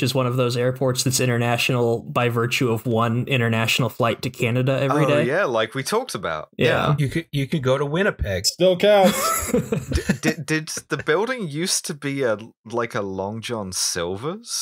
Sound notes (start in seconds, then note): 9.0 laughter